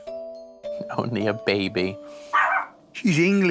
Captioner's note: barks